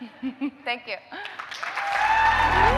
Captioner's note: laughter; cheering